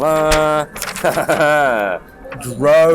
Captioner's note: laughs